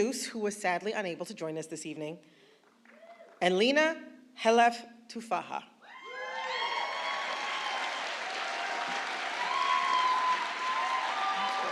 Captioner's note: applause